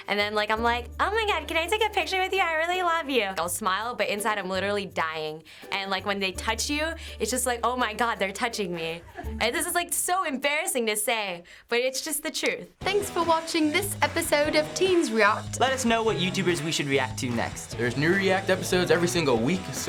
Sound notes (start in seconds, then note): 12.8 in British accent